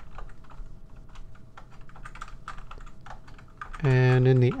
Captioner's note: typing